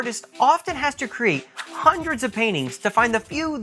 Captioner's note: swish